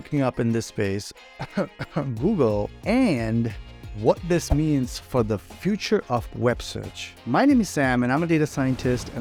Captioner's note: cough